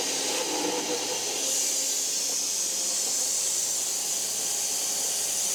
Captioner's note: saw buzzing continues